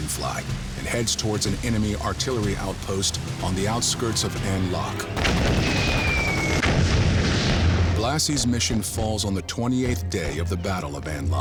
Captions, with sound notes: and heads towards an enemy artillery outpost on the outskirts of An Loc. (machine gun fire) (bombs exploding) Blassie's mission falls on the 28th day of the Battle of An Loc,